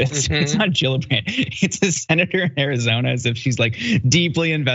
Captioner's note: laugh